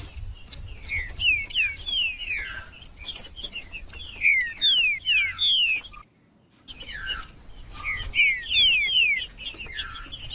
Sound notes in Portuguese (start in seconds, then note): 0.0 trinca ferro cantando; 1.4 trinca ferro cantando; 3.4 trinca ferro cantando; 5.4 trinca ferro cantando